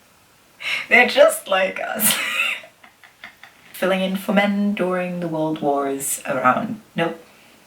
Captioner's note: wheezy cackling